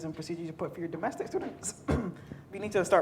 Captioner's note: clears throat